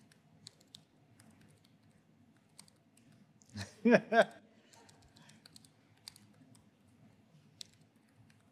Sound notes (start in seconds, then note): 3.6 laughter